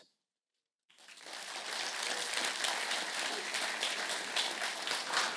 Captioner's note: applause